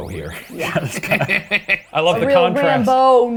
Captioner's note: laughs